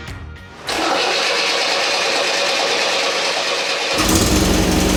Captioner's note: ignition firing; engine roaring